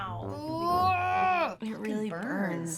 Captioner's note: playful music; groaning